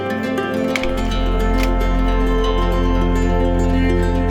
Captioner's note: projector clicks